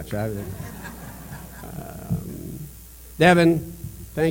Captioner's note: laughter